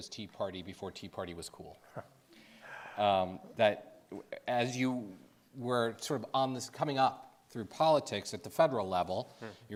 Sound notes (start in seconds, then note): 2.0 Jeff chuckling